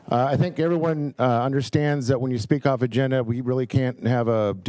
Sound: crowd noise

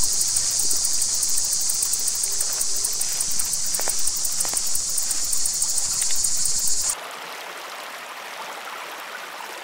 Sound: crickets, walking

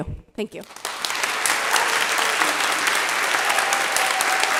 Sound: attendees applauding

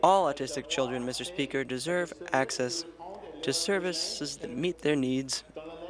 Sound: speaking in French

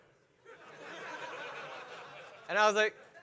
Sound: audience laugh

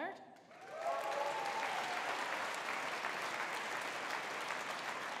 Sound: audience applauding

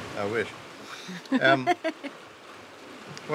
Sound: laughs

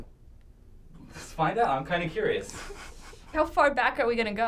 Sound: snickering

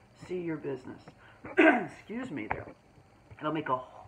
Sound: cough

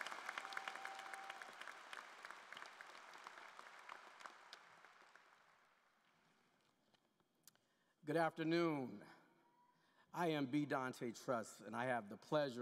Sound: applause

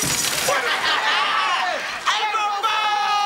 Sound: laughing

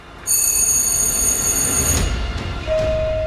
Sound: bell rings; intense music

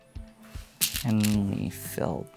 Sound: stones rattling

